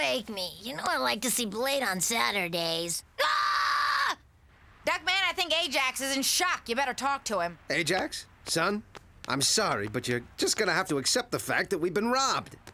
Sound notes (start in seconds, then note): 3.1 screaming